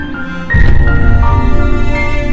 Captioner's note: Car door opens